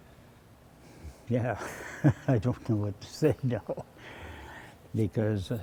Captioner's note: laughs